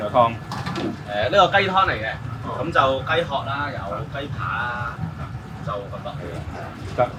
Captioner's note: speaks in foreign language; chef 1 speaking in foreign language